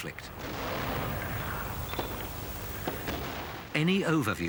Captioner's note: guns firing